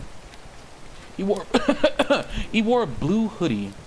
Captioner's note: coughing fit